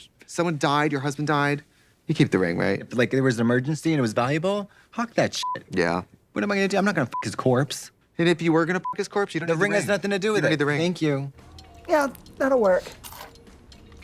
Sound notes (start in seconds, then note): 5.4 beep; 7.9 beep